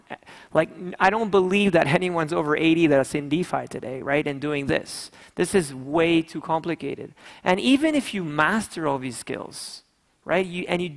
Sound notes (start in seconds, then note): none